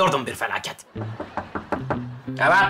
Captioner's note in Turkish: Kapı tıklama sesi